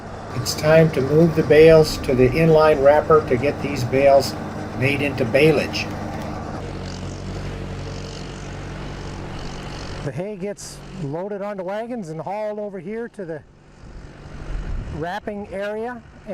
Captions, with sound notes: It's time to move thes bales to the in-line wrapper to get these bales made into balage. (tractor sound) The hay gets loaded onto wagons and hauled over here to the wrapping area